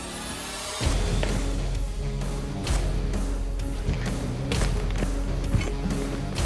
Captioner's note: blade impact sounds